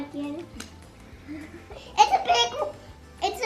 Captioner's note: hands tapping